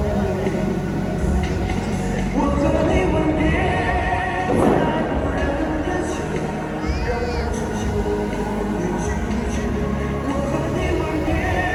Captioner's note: laughing